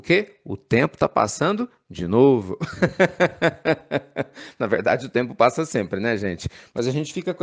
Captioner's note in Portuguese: risos